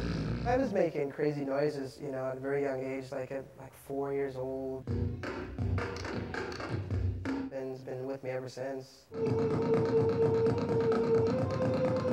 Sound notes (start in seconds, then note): 4.8 beatboxing; 9.1 beatboxing